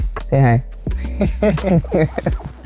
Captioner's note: laughs